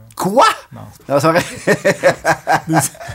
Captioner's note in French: rires